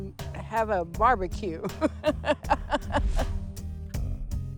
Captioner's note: laughs